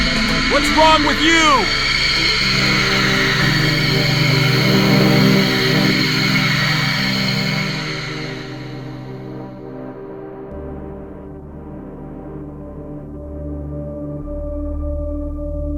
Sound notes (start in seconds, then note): 3.4 noise of terrified crowd; 10.7 ambient music playing